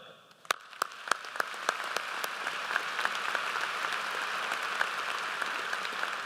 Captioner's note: applause